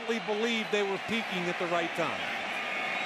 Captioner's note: whistle blows